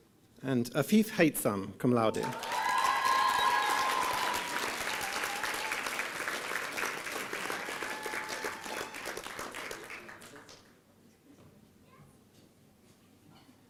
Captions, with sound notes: Afeph Hitson Cumlaude. (applause and cheering)